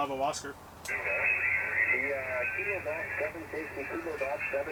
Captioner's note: radio static